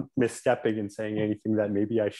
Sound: laughs

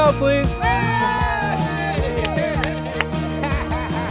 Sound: group cheers

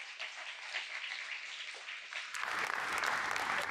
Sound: applause

